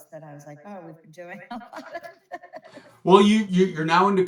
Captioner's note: laughs